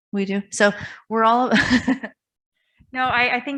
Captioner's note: chuckles